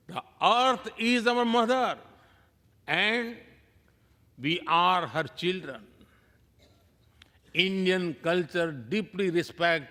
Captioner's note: speaking non-english